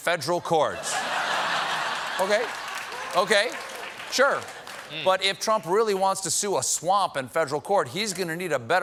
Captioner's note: laughter